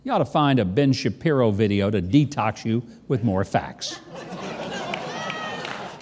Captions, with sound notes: you oughta find a Ben Shapiro video to detox you with more facts. (audience laughing)